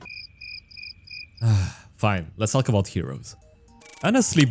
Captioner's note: sigh